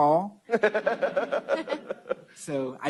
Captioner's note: laughter